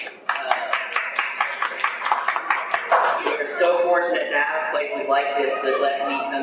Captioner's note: applause